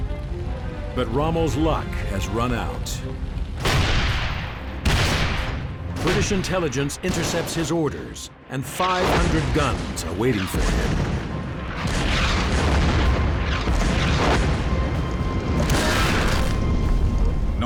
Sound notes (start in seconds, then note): 3.5 cannons firing; 10.9 shells exploding; 15.8 tank explodes